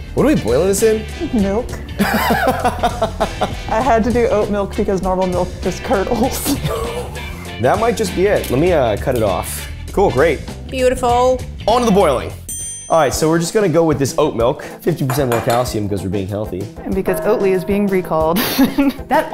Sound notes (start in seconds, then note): 1.9 laughing; 12.4 bell dings; 18.4 laughing